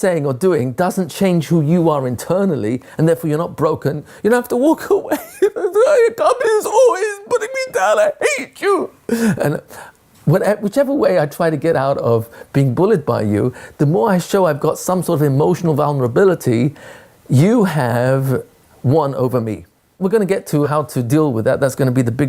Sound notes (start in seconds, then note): 11.0 crying